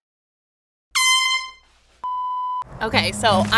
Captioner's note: beep